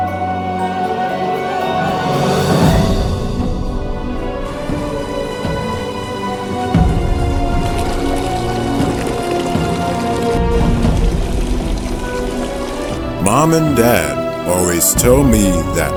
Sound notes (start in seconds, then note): 0.2 ominous music continues; 5.8 fountain water splashing